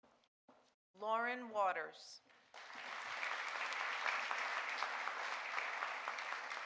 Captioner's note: audience applauding